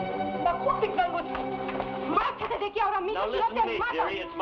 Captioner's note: woman shouts in Tagalog